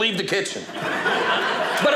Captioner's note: audience laughing